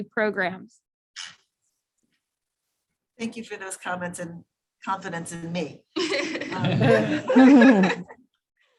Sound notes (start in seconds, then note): 5.9 laughter